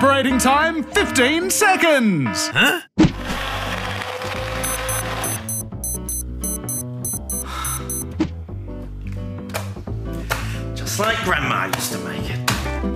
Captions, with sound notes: Huh? (Alarm bleeps) (Sighs) Just like Grandma used to make it.